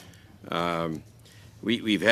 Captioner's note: speaking French